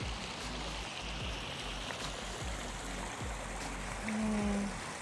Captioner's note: water splashing